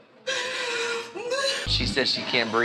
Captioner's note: sobbing